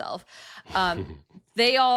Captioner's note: chuckling